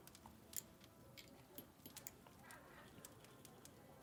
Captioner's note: fire crackling